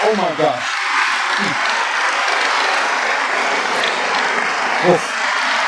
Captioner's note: applause